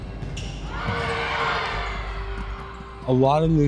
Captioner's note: players cheer